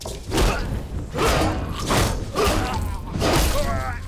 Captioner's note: pounding; snarling